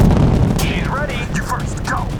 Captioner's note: over Comms